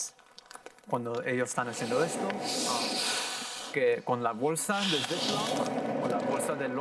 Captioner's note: in foreign language; air whooshing loudly